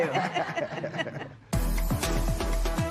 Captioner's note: laughter